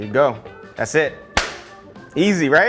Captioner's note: hands clap